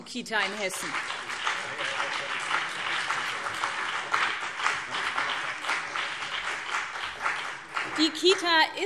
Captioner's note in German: Beifall BÜNDNIS 90/DIE GRÜNEN und CDU